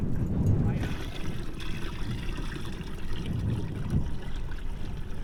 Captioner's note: background chatter; water sloshing